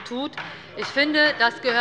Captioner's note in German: Zurufe von der CDU